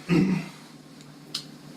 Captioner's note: cough